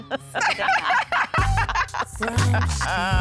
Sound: laughter

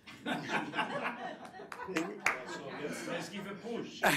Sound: group laughing

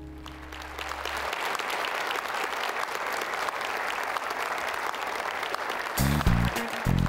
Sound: applause

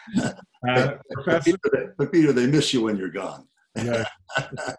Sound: laughs

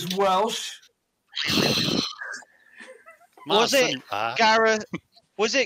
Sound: boing

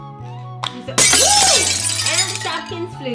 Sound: glass shattering

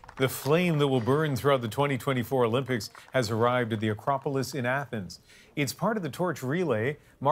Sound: applause

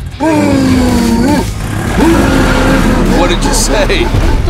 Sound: roaring; Chase grunting

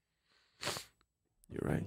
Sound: sniffles

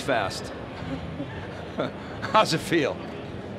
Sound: laughing

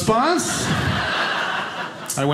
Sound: audience laughing

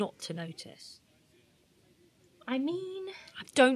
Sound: a pause

